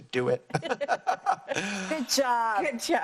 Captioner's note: laughs